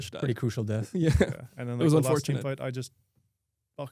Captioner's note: laughs